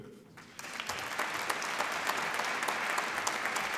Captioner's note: applause